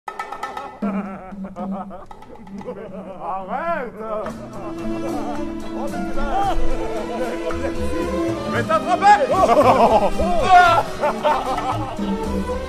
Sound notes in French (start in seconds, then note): 0.6 rires; 9.2 rires